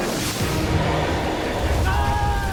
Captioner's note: explosion; screaming